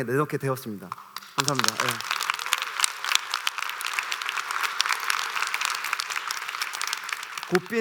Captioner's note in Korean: 박수